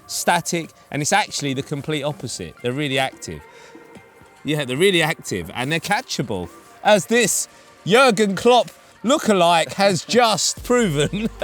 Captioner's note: laughs